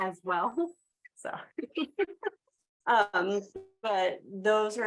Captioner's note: laughs